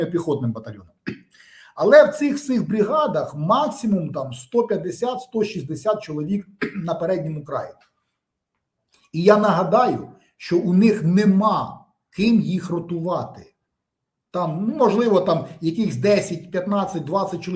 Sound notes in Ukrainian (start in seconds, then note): 1.0 прочищення горла; 6.6 прочищення горла